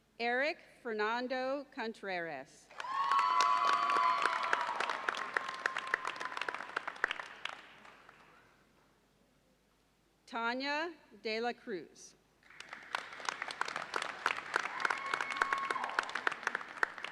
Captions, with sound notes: Erick Fernando Contreras. (audience cheers and applauds) Tania De La Cruz. (audience applauds)